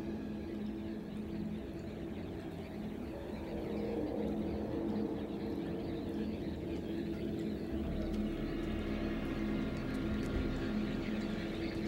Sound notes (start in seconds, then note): none